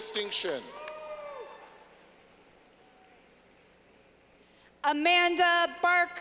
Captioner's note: clapping